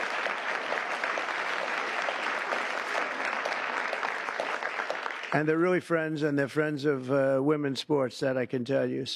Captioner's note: cheers and applause